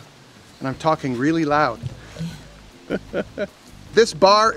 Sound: laughs

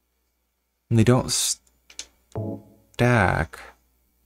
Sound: none

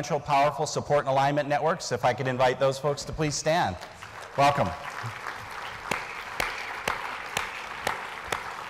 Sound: applause

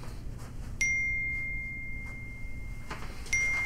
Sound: phone Ding

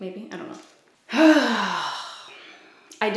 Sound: sighs

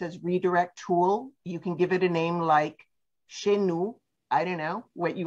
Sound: French

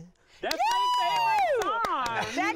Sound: cheers

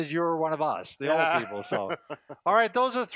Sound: chuckles

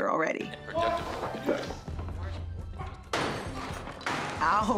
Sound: man shouting

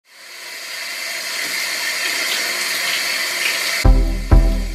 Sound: shower Noises

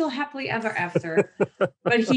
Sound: laughs

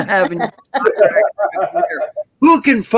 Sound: all laughing

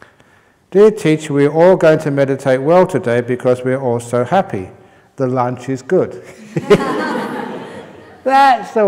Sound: laughter

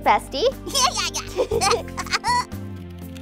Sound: laughing

